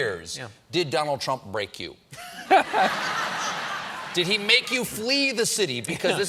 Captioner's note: laughter